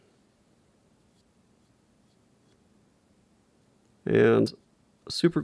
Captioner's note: glue wand brushing